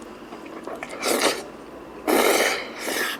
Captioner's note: slurp slurp